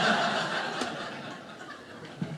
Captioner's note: audience laughing